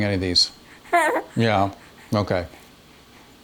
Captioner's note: baby laughs